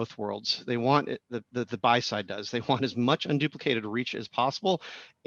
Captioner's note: laugh